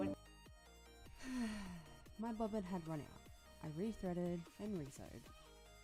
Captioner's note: sigh